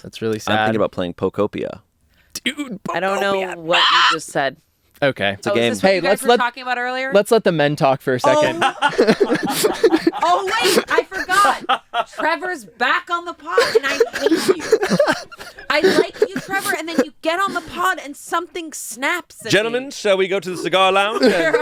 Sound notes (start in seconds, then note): 8.2 everyone laughs